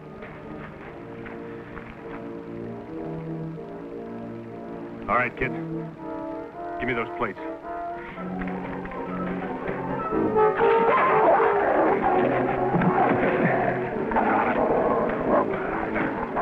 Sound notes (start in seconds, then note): 8.6 action music; 10.4 growls